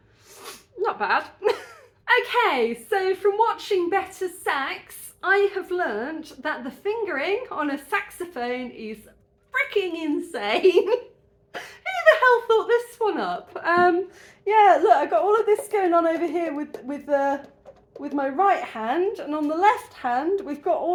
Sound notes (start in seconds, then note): 0.0 sniff; 10.1 laughing